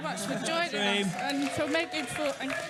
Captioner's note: cheering & applause